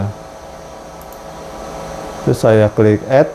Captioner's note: clicking sound